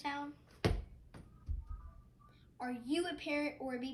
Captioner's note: ball thuds on ground